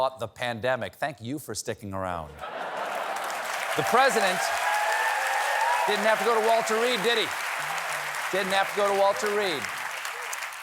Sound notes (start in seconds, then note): 4.0 cheers and applause